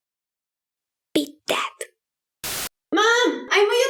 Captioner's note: whispering